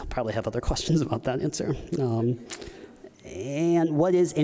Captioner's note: none